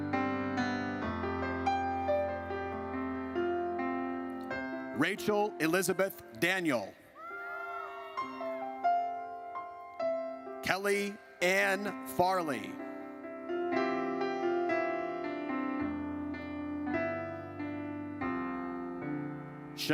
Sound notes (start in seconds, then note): 7.2 audience cheers; 13.0 gentle music